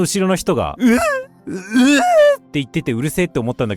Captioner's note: sobbing